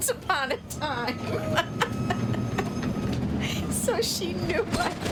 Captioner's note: laughing